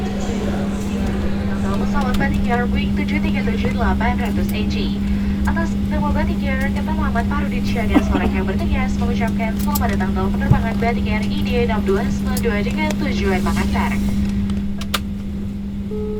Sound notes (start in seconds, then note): 1.9 airplane sound